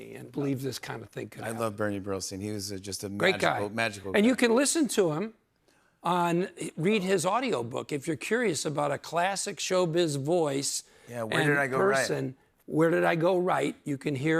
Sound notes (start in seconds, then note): none